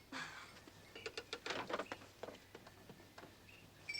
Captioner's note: Peter laughing